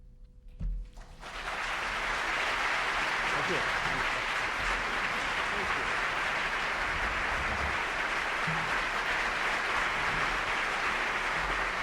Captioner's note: applause